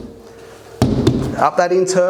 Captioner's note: knocking